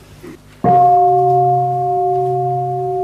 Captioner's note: bell